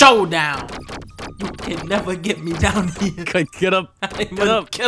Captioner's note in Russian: посмеивание